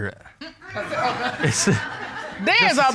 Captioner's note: audience laughs; chuckles nervously